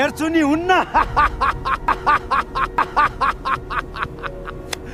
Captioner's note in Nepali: हास्य